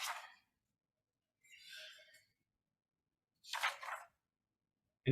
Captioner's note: papers rustling